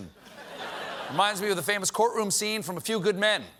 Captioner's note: laughter